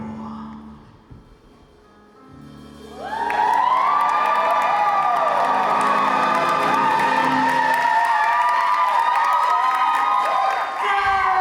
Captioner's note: audience cheers